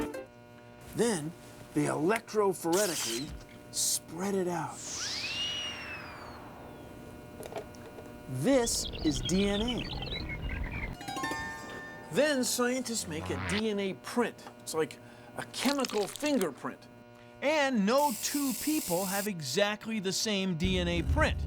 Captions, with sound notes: THEN, THEY ELECTROPHORETICALLY SPREAD IT OUT. [ SLIDE WHISTLE PLAYS ] THIS IS DNA. [ HARP PLAYS ] THEN SCIENTISTS MAKE A DNA PRINT. IT'S LIKE A CHEMICAL FINGERPRINT. AND NO TWO PEOPLE HAVE EXACTLY THE SAME DNA PRINT